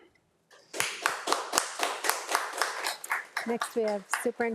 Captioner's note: audience applauds